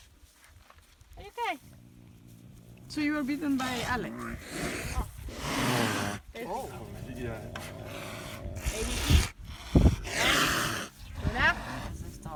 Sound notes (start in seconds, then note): 6.1 caracals keep hissing